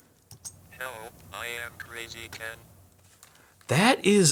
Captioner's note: robotic Voice